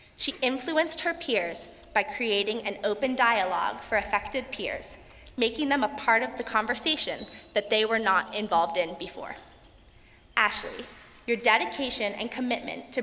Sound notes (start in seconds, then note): none